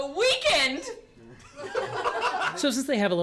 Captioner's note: all laugh